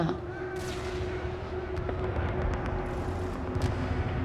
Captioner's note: warfare echoing